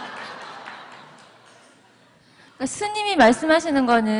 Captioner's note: audience Laughter